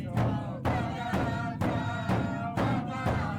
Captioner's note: chanting